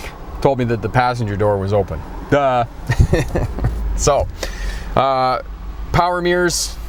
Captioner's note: chuckling